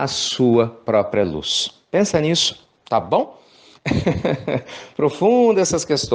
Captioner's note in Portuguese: risos